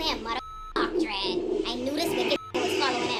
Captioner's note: beep